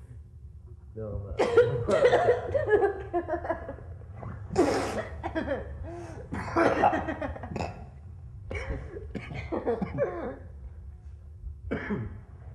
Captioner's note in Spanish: tosen y risa